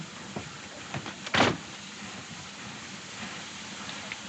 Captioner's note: door Closes